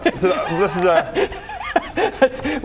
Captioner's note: unsympathetic laughter